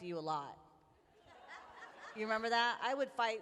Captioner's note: laughter